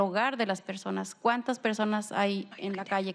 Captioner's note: speaking spanish